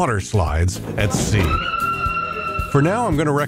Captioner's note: woman screaming